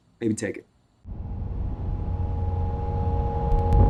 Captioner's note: low thrum